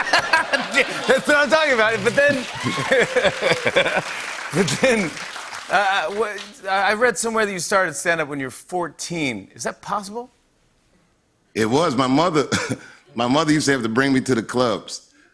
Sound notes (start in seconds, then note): 0.0 laughter; 2.6 cheers and applause